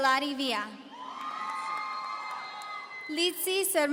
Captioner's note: audience cheering